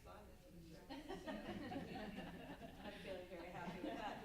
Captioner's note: panel laughs